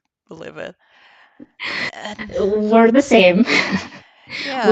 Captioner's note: laughing